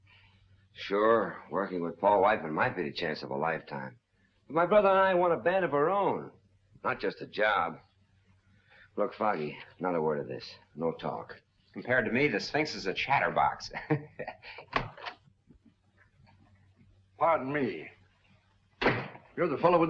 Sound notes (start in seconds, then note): 13.6 laughs